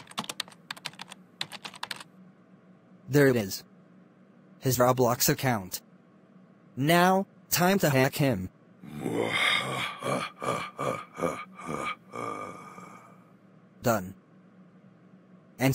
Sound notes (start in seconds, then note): 8.9 evil Laughter